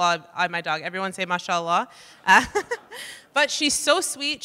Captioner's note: laughs